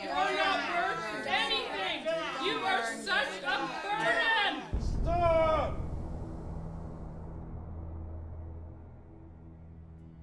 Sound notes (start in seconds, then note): 5.2 yelling